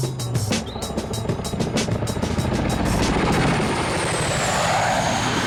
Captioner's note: helicopter whirring